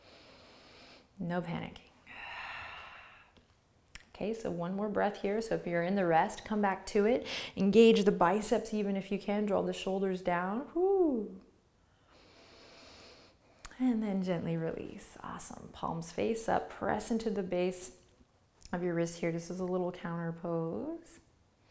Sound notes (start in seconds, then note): 0.0 inhales slowly; 2.0 exhales breath; 10.9 sound of relief; 11.8 inhales deeply